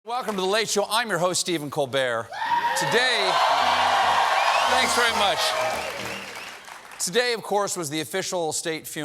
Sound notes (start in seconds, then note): 2.3 cheers and applause